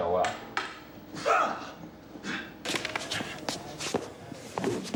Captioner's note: shouting, Grunting